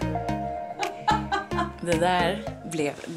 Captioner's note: laughter